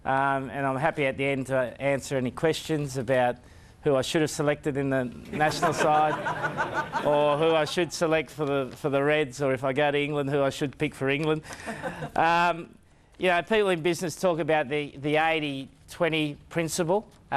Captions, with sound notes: and I'm happy at the end to answer any questions about who I should have selected in the national side (crowd laughs) or who I should select for the Reds. So, if I got England who I should pick for England. (woman laughs) You know, people in business talk about the 80/20 principle